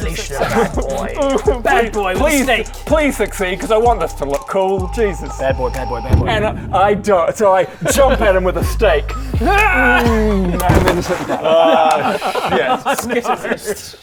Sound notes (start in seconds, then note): 1.3 cries; 9.5 hyrrrgh!; 13.0 unimpressed laughter